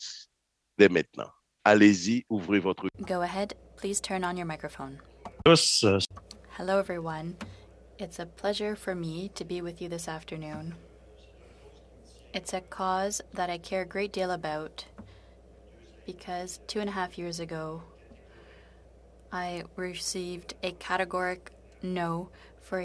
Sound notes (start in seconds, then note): 11.5 speaking French